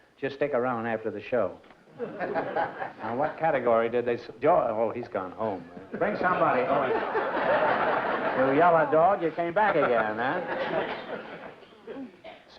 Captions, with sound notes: just stick around after the show. Now what category did they-- oh, he's gone home. Bring somebody-- oh, he's gone. [LAUGHTER] You yellow dog, you came back again, huh?